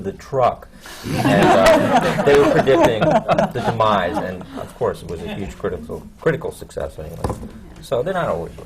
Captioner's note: laughter